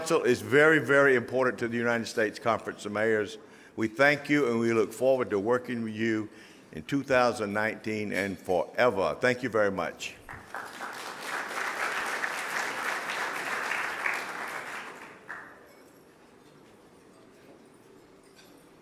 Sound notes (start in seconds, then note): 10.2 applause